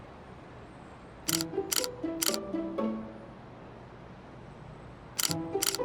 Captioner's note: camera lens shutters